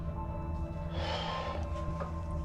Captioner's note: sighs